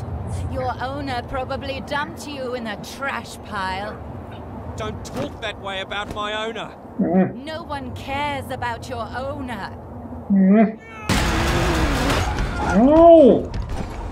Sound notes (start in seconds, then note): 6.8 Musky whimpers; 10.0 Musky whimpers; 10.8 yells